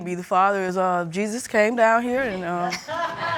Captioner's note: audience laughing